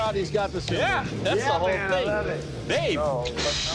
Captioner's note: imitates cymbal crashing